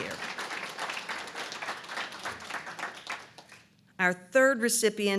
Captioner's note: applause